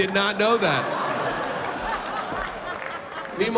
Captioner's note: laughter